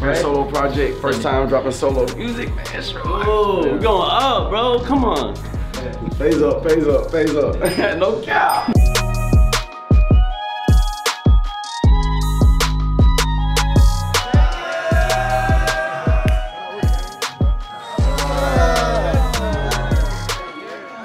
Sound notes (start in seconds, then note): 8.8 lively hiphop music; 13.9 group cheering